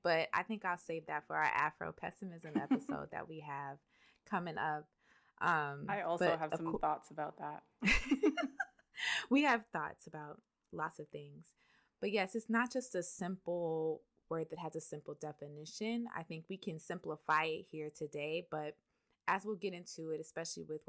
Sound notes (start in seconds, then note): 7.8 laughter